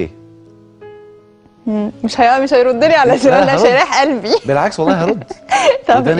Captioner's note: laughs!